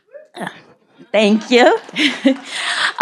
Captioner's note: people cheering